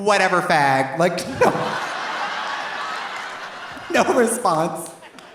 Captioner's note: audience laughing; audience applauding